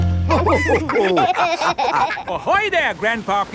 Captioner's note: all laughing